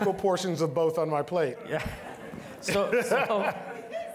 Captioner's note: laughing